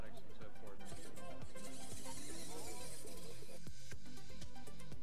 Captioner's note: engine whirring